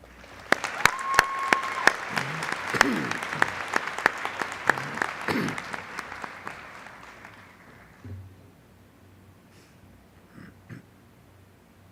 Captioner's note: applause